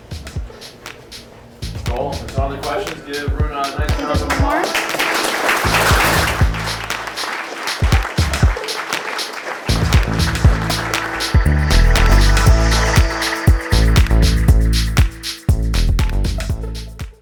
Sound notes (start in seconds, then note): 0.2 upbeat music; 5.0 audience applause